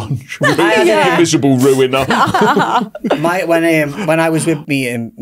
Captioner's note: hosts laugh